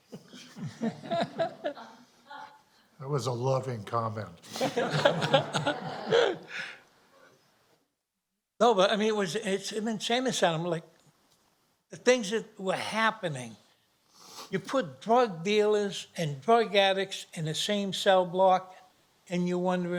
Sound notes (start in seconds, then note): 0.0 chuckling; 4.5 laughter